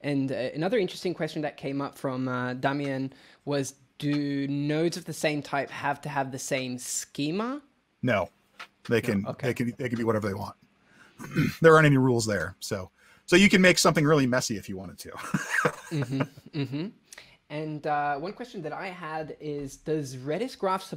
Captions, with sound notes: And another interesting question that came up from Damien, was do nodes of the same type have to have the same schema? - No. - Okay. - They can be whatever they want. There aren't any rules there. So, you can make something really messy if you wanted to. (laughs) - And one question that I had is does RedisGraph